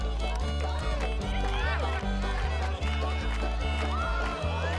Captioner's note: spectators cheering